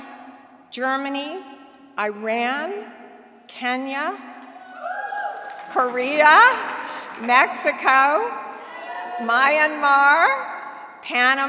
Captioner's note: cheering